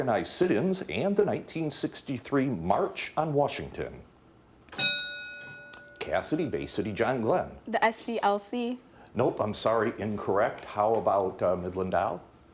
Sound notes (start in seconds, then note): 4.7 bell dinging